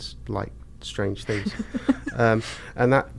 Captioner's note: laughs